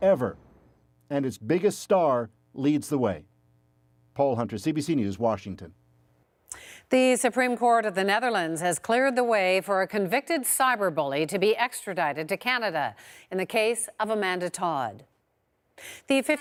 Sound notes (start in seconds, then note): none